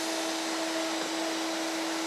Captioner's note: whirring